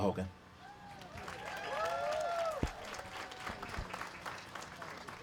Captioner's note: applause